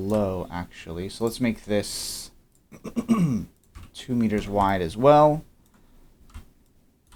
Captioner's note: clears throat